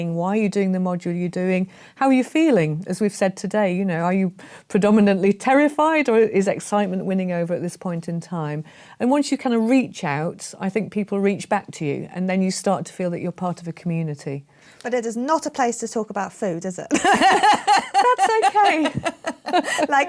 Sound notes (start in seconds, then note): 16.9 laughter